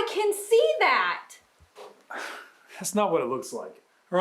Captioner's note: scoffs